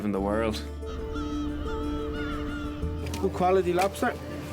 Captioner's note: seagulls squawking